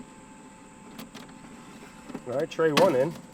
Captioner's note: dehydrator whirring